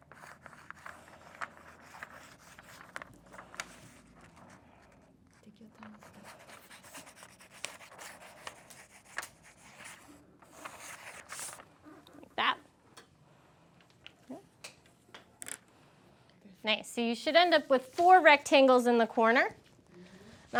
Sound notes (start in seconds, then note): 0.0 paper rustling; 0.1 pencils scraping; 5.8 pencils scraping